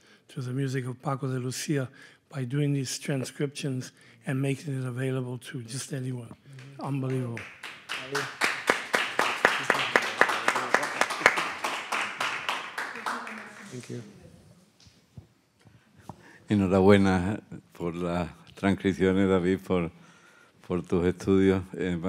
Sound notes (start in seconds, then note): 8.3 audience applauds; 16.9 speaking in Spanish